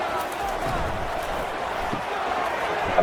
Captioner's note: crowd Noises